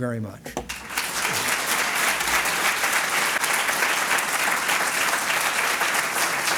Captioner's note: applause